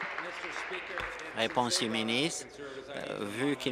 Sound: applause

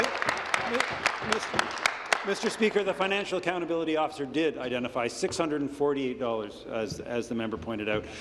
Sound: applause

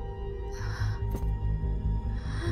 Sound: gasp

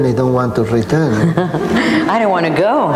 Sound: audience laughing; laughing

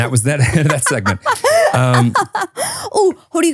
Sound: laughing

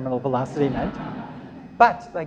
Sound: laughter

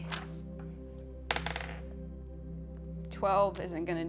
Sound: dice rolling

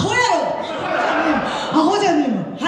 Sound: laughs

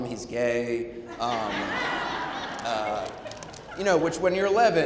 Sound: audience laughing

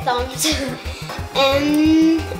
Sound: laughing

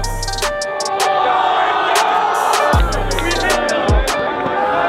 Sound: group cheering

